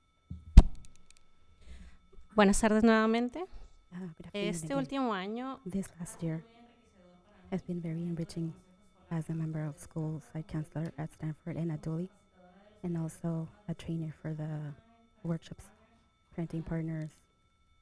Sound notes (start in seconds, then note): 3.1 panelist speaking in Spanish